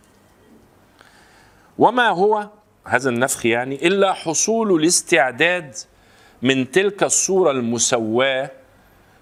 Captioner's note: the breathing